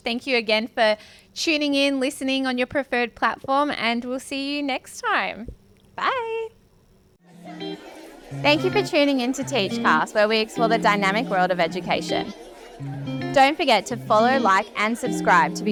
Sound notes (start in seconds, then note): 7.2 upbeat music; 7.6 people chattering